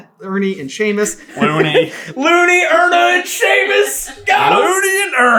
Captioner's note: laughing